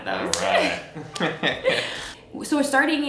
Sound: both laughing

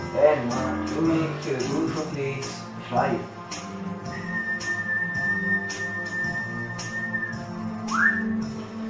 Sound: whistle

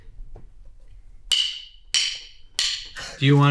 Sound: drumsticks clicking

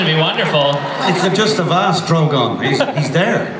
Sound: voiceover

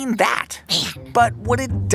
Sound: under her breath

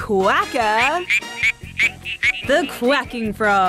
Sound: frog quacks

